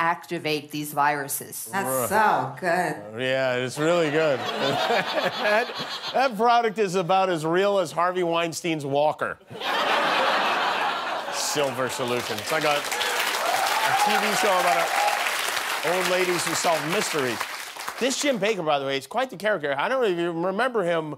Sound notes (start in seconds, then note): 15.3 applause